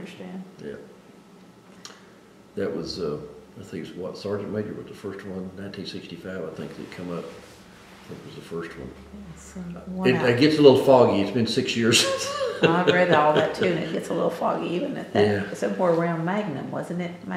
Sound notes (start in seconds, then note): 11.9 laughs